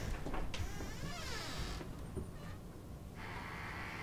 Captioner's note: door creaking